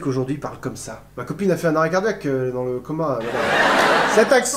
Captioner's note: laughter